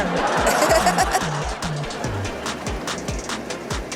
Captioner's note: audience laughs